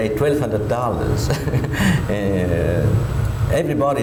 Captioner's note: laughs